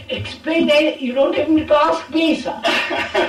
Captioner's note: laughter